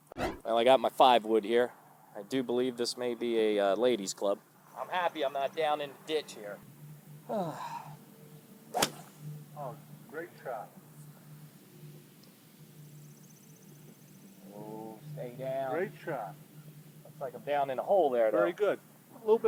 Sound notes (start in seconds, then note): 7.2 sighs; 8.7 club thwacks